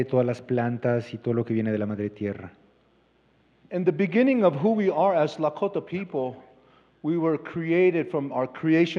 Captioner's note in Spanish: Expositor habla en inglés